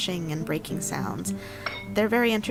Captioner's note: dish clinking against table